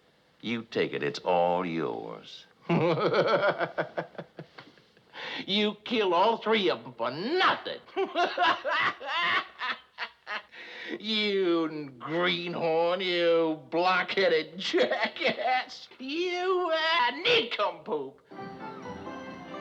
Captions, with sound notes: There. You take it. It’s all yours. [Laughing] You killed all three of 'em for nothin'! [Laughing] You greenhorn! You block-headed jackass! You nincompoop!